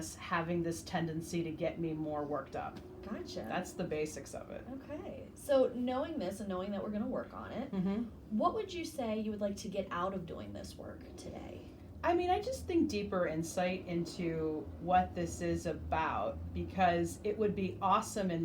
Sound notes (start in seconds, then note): none